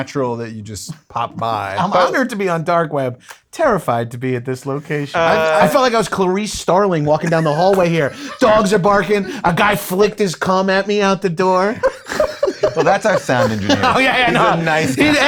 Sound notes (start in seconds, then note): 11.4 laughs